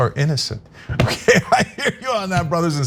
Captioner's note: laugh